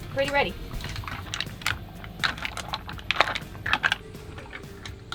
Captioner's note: mussels crackling